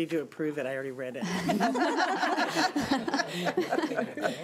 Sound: laughing

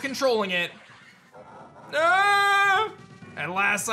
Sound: grunts

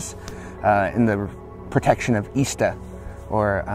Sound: speaking Native language

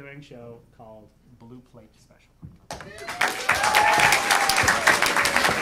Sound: audience applauding

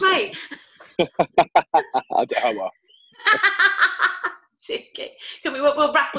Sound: laughter

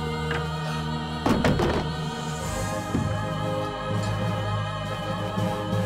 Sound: torch bangs on the floor

